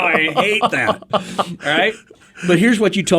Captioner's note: laughing